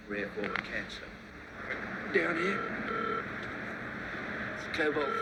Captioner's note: phone ringing